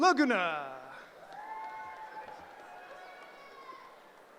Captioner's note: cheering